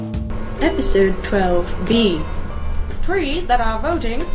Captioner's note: female Recorded Voice